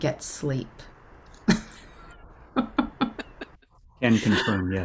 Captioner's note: laughter